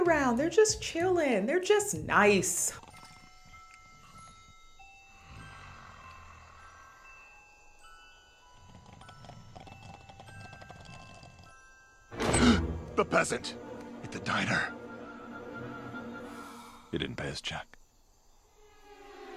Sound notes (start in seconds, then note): 5.0 snoring